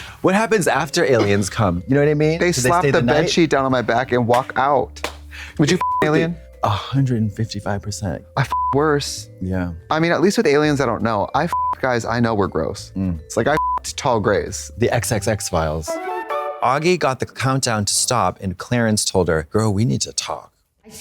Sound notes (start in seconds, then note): 5.7 beep; 8.5 beep; 13.6 beep; 15.9 bright chime